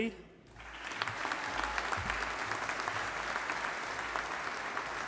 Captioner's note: audience applauding